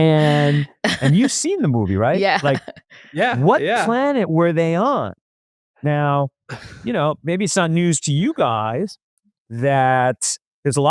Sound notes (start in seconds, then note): 2.7 laughs